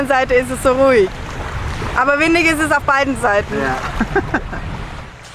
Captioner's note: laughter